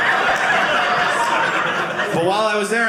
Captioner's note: audience laughing